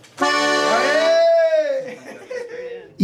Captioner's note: cheering